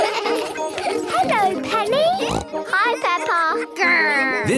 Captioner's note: laughter; snorting